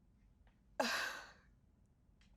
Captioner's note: Mrs. Hill sighs